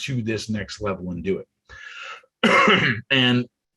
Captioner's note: coughs